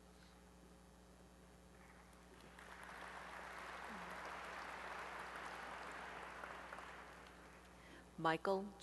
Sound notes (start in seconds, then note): 4.2 applause